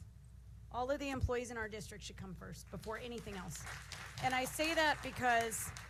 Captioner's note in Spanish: aplausos